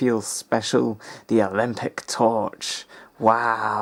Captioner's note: sarcasm